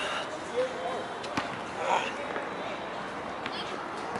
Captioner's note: grunting